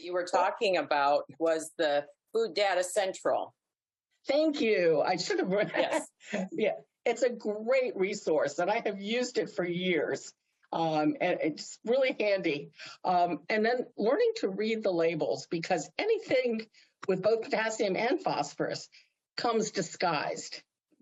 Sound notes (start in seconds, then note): 5.5 laughs